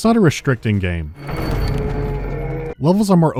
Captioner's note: dying wail